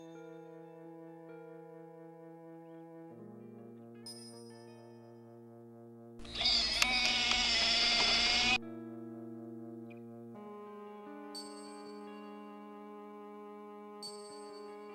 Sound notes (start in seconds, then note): 6.6 wheelchair squeals